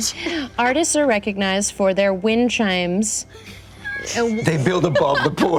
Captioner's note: laughing; laughter